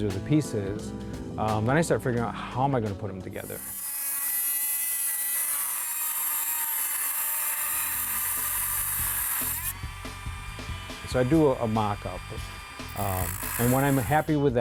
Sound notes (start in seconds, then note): 3.1 grinder grinding